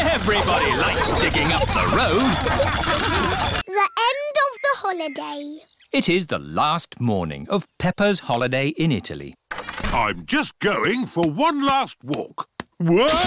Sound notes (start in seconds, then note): 2.8 laughter